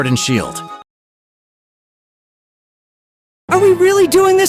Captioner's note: silence